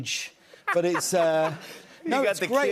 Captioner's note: laughter